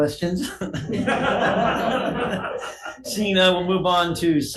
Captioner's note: all laughing